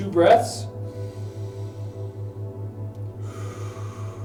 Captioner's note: inhales; exhales